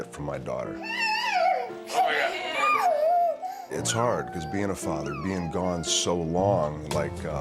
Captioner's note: laugh